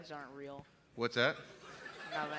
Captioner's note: laughter